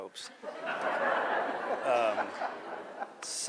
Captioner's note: laughter